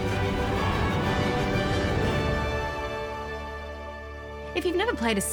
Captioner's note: explosions, uplifting music